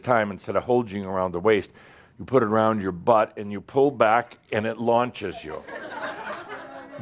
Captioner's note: laughter